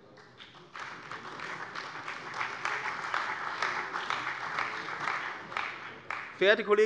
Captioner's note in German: Beifall bei der CDU und dem BÜNDNIS 90/DIE GRÜNEN